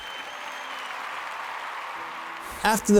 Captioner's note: applause